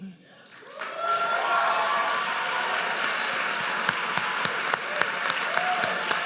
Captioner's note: audience cheers and applauds